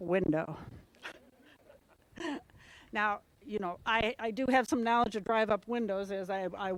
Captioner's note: laugh